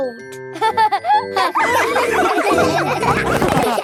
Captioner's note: all laughing